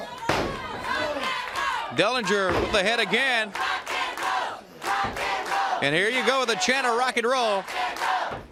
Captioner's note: crowd cheering